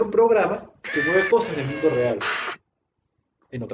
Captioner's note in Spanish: efecto brazo robótico